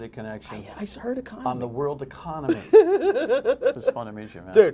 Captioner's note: laughter